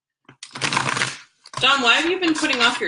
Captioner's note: cards shuffling